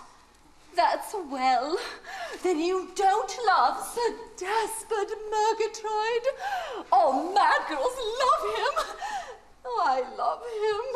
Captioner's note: she laughs